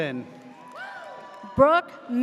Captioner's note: audience cheers